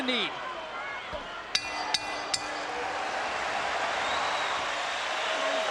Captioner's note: bell dings